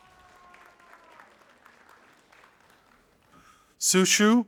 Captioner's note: audience applauding